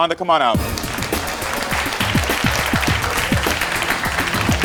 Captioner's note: audience applauds